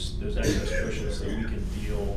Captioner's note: coughing